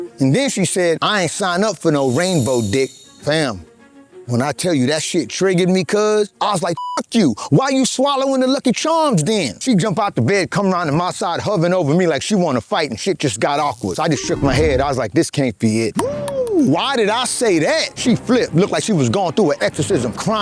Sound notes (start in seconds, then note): 6.8 beep; 14.4 electronic game beeping